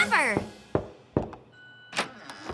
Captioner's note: knock at door